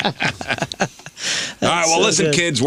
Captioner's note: laughter